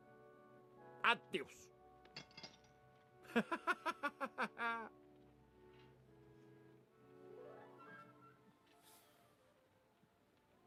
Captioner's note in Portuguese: risadas